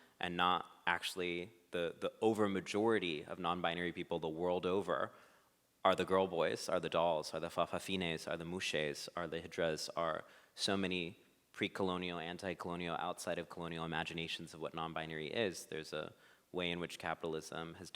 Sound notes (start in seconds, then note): none